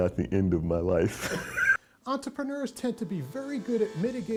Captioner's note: chuckling